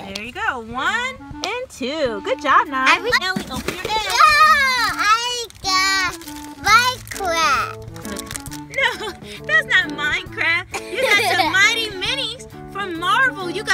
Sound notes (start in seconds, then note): 0.3 voiceover; 8.3 voiceover; 10.7 chuckles